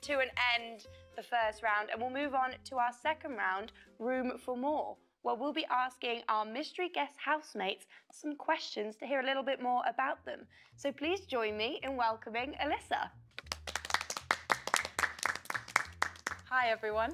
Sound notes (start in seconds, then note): 13.3 applause